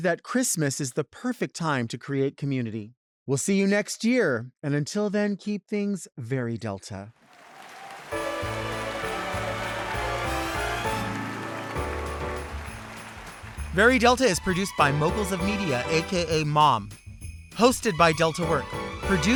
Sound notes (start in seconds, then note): 7.2 audience clapping and cheering; 12.4 upbeat bright music